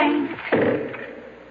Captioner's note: burp